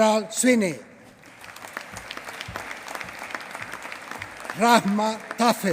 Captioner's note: applause